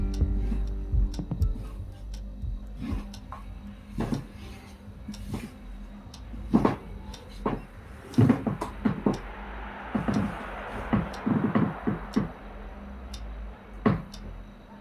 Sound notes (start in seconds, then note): 0.0 rhythmic electronic music; 8.3 passing traffic outside